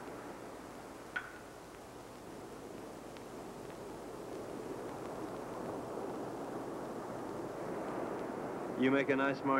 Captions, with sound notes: (glasses clinking) (faint surf roaring) - You make a nice martini.